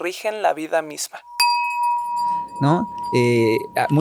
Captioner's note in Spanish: Sonido de campana